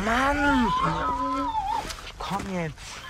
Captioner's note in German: Wiehern